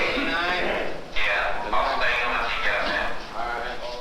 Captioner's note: loudspeaker